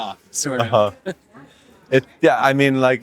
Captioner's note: chuckles